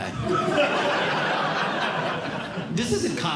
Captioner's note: audience Laughing